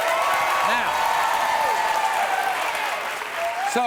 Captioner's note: audience cheering